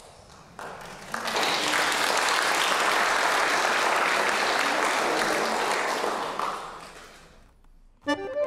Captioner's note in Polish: Aplauz